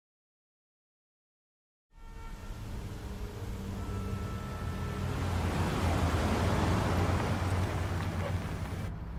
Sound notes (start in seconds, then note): 4.9 car engine revs; 7.8 ominous music